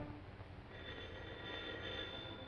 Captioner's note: phone rings